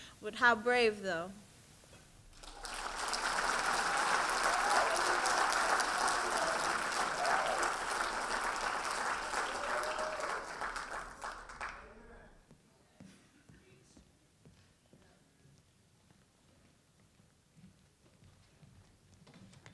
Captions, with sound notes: But how brave though? (audience applauding)